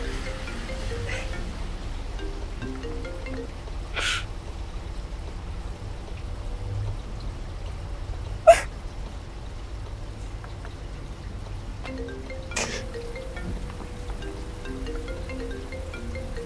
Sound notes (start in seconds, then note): 8.6 sobs; 11.9 phone ringing